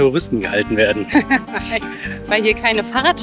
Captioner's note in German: Lachen